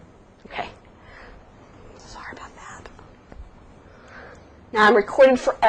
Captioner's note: whispered